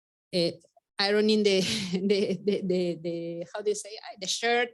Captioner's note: chuckles